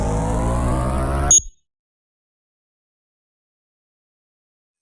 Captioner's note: beeps